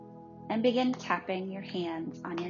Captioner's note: hands tapping